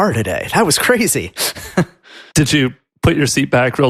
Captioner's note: chuckles